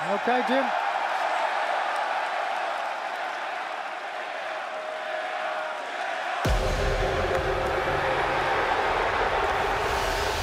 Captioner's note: crowd cheering